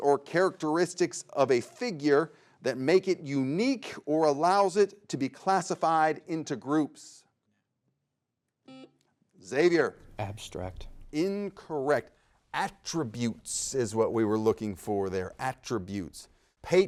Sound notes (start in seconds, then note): 8.6 buzzer beeps